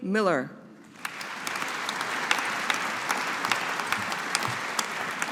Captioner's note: audience applauding